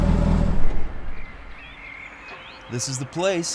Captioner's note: birds chirping